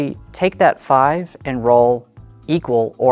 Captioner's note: none